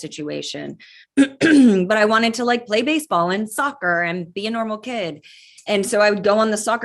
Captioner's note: cough